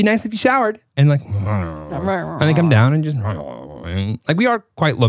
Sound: groans

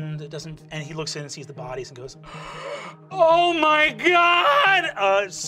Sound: gasping

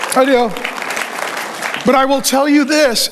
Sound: congregation applauding

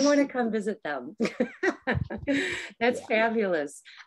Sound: laughs

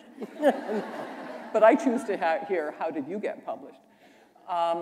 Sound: laughter

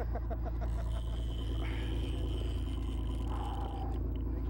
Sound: laughter; heavy breathing

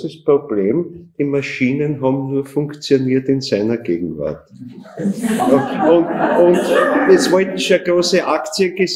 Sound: laughter in the audience

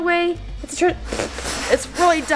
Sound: blows

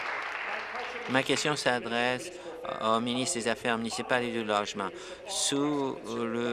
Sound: applause

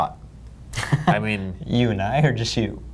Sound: laughs

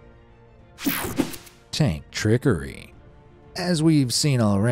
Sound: air whooshing

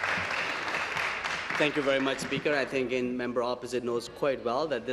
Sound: applause

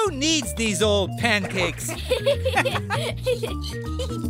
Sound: laughing

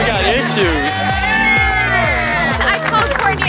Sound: cheering

